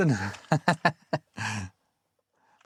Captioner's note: laughs